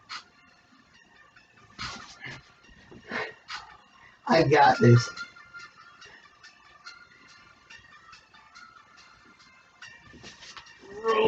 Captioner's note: sighs; sighs again